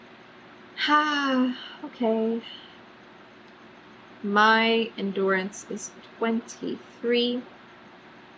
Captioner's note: sighs